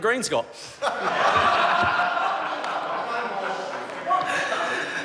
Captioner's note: laughter